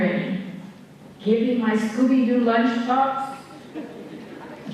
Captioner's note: laughter